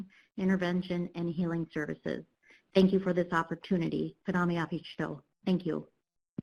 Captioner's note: speaking Native language